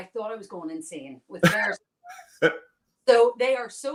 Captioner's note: laughs